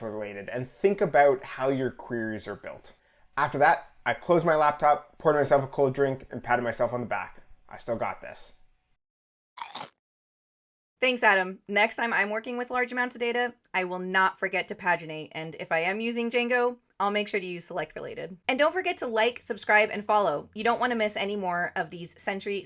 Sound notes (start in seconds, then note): 9.6 crunch